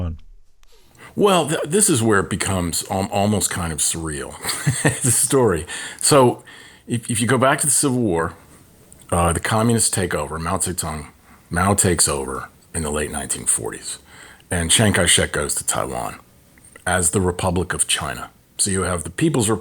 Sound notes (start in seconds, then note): 4.4 laughter